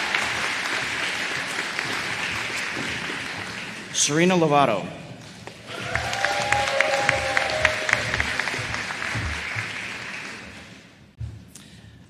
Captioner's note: applause